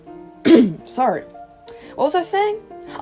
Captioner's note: clears throat